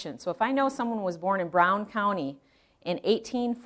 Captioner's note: none